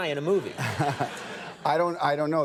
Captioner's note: audience laughs